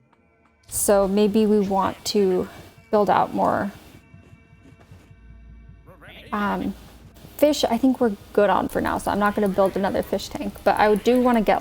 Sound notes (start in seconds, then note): 8.5 intense clicking